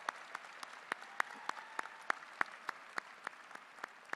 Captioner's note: cheers and applause